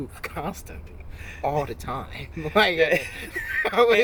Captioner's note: laughter